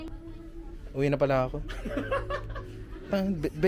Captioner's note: laughs